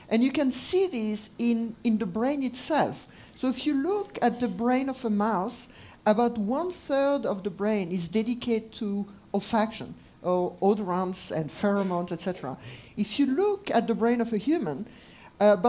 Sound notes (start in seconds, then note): none